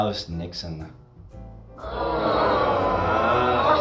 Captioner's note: audience groans